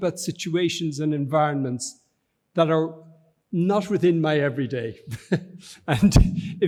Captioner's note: chuckles